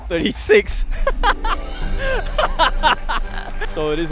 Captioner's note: laughs